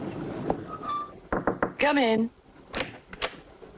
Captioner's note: knocking